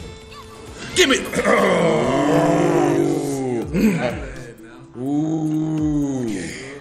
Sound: cough

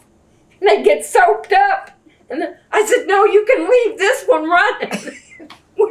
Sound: laughter

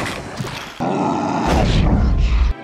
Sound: grunting

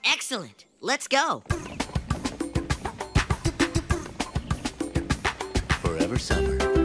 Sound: man vocalizing

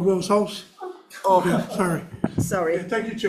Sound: members chuckle

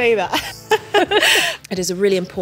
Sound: laughing

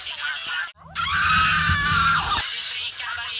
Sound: screaming

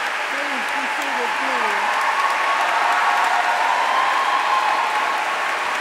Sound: applause

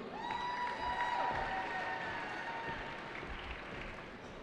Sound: cheering

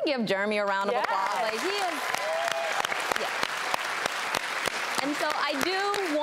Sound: audience clapping

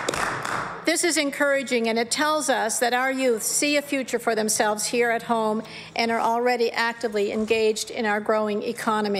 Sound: applause

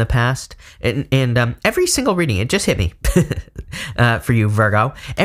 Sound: chuckling

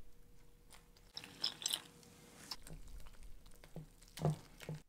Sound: water pouring

